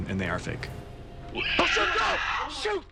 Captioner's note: screeches